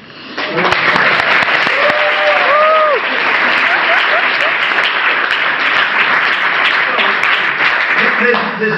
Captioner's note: crowd cheers